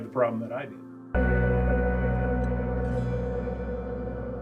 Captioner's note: ominous sound